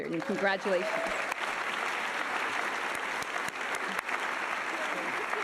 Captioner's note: audience applauding